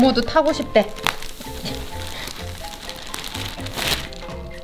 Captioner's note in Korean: 미끄러지는 소리